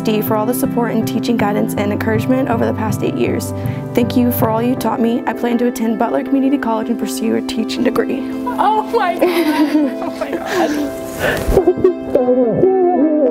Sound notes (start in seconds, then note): 8.5 laughs